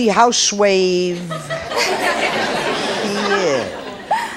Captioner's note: audience laughs